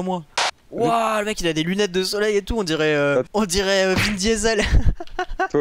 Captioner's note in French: rire